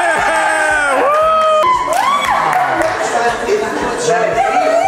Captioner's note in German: Leute applaudieren